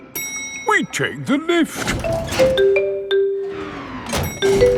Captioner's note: elevator dings